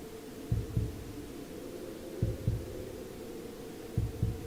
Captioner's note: muffled wind howls